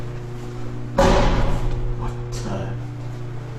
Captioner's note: something bangs loudly